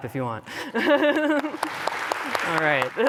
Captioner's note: applause